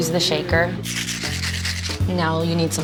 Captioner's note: shaking